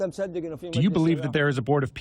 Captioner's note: through translator